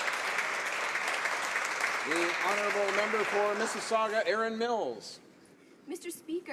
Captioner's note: some Applause